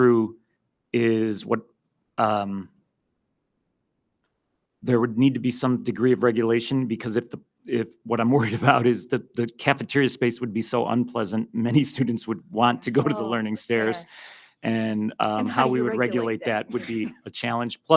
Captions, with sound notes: is there would need to be some degree of regulation, because what I'm worried about (laughs) is that the cafeteria space would be so unpleasant, many students would want to go to the learning stairs- >>Oh, okay. >>-and how we would regulate that would be a challenge. >>And how do you regulate that?